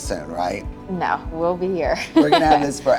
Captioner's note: laughs